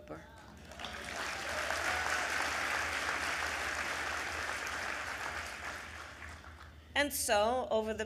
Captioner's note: applause